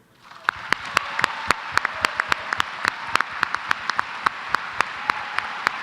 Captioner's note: applause